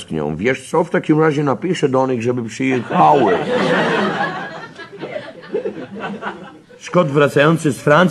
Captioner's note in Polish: śmiech